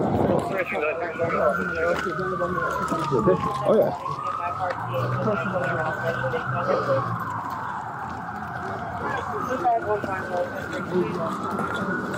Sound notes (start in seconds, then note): 4.6 radio chatter; 9.0 radio chatter